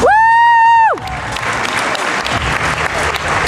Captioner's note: applause